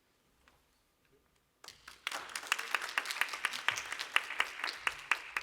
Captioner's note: applause